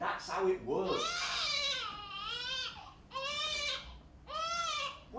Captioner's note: baby crying